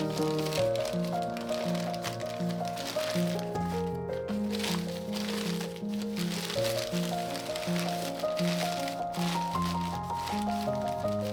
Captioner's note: paper crinkling